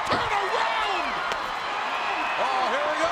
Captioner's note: crowd cheering